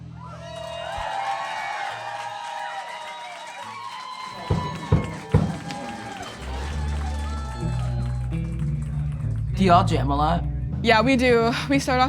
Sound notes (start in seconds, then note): 0.0 audience cheering; 4.3 drum beating